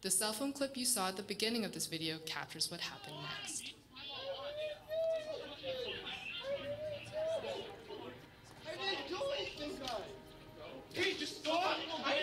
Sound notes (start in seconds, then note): 6.2 shouting